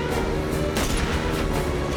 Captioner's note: gunshot